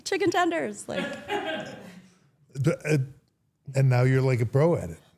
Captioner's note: everyone laughs